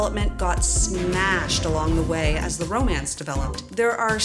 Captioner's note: explosion